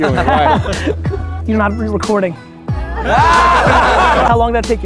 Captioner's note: crowd laughter